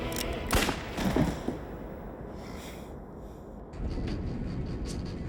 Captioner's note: gun firing; body collapsing; dramatic music